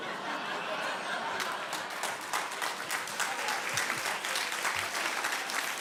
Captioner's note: audience laughing and clapping loudly